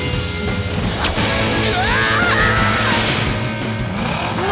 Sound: screaming

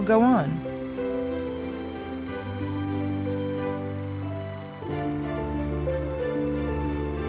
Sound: reel grinding; soft music

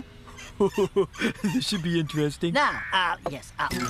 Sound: laughing

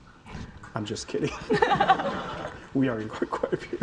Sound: audience laughing

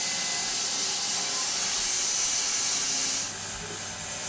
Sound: saw whirring

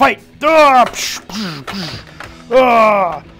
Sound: grunting

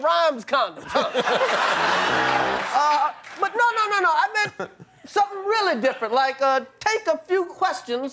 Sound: cheers and applause

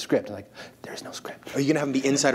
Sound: he whispers; people laugh

